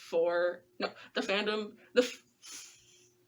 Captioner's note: giggles at inability to enunciate